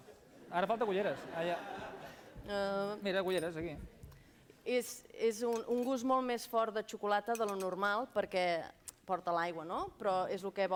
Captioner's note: non-english speech